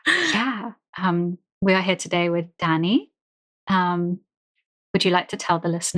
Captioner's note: laughs